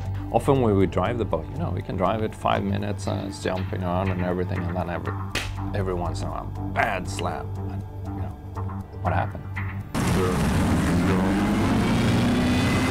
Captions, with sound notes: Often we would drive the boat. We could drive it five minutes and then it's up and down and then [ smack ] every once in a while; a bad slap. What happened? [ Sound of boat motor ]